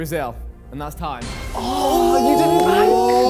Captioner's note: men exclaiming